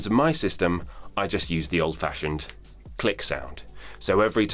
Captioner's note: snaps